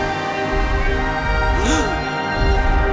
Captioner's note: gasping